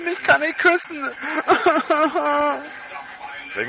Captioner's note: fake crying